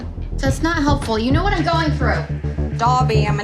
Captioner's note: Australian accent